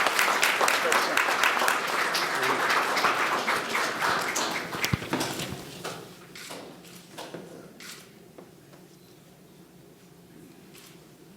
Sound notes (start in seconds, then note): 4.8 cameras clicking